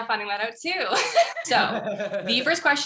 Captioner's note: laugh